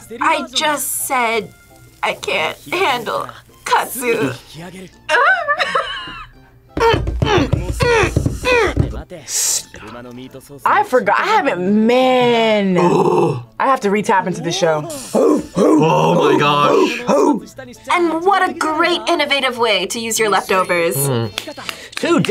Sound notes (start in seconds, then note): 5.2 laughs; 15.0 barks